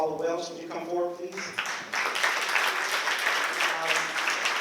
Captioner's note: applause